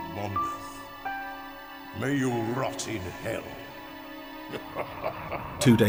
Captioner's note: laughing